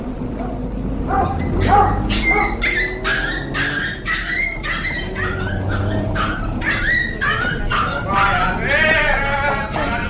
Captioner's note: dog whimpering